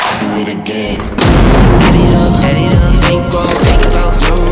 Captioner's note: gun booms